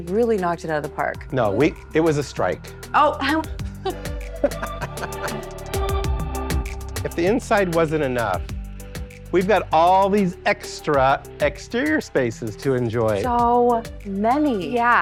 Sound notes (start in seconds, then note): 3.9 bright upbeat music; 4.3 everyone laughs